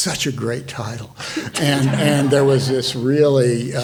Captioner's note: all laughing